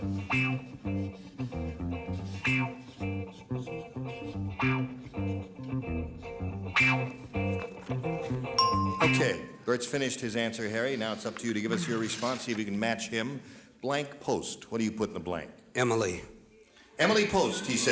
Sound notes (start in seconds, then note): 8.6 dinging